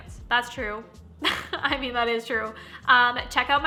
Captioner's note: chuckling